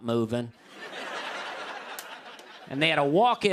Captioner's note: laughter